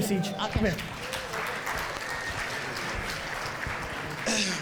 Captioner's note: audience applauds